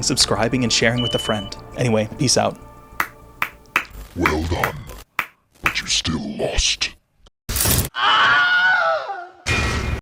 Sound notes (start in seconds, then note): 7.9 Wilhelm Scream